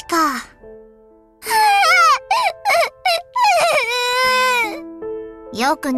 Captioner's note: sobbing